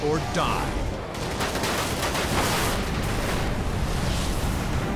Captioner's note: gunshots